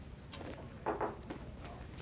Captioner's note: knock on the door